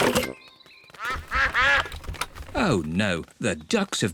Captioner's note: quacking